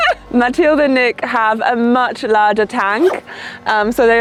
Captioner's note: laughing